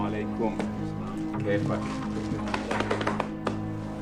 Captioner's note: speaking foreign language